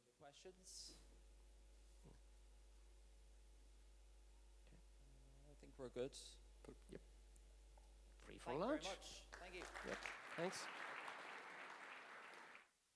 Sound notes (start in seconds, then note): 8.6 applause